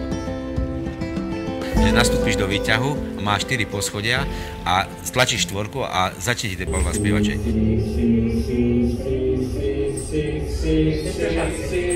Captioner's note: elevator sound